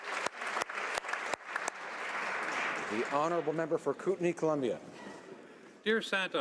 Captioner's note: applause